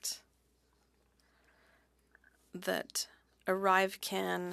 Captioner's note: speaking French